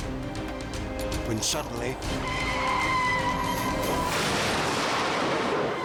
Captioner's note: vehicle crashes loudly